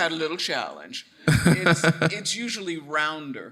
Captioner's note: chuckling